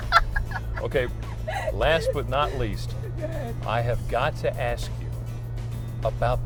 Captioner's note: laughter